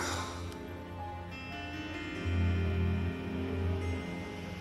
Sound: on phone

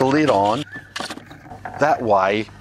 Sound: sifter rattles

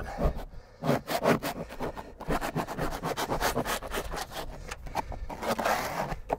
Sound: scraper continues to scrape wall

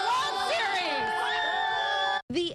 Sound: cheering

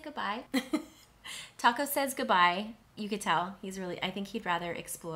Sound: chuckles

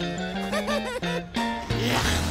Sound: laughing

